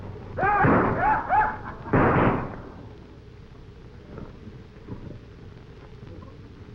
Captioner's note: men shouting; gunshots banging